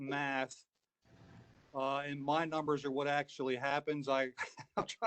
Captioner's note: laughter